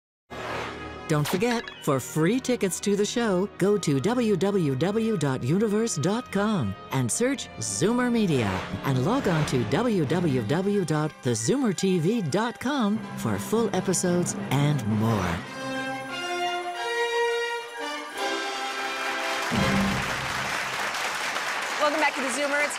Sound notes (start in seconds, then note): 12.2 exciting music; 15.8 audience applauding